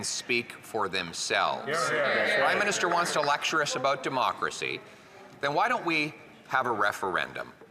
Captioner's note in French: voix de l'interprète